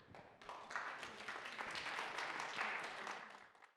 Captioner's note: audience claps